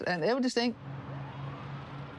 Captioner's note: siren wails